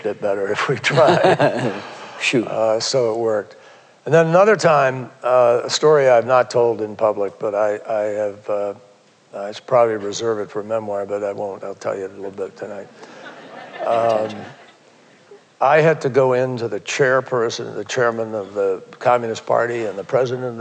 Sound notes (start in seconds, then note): 0.8 laughter; 13.0 laughter